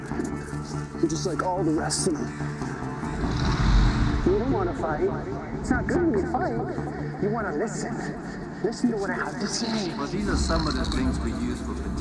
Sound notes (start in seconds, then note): 3.0 echoes